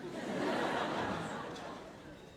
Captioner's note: audience laugh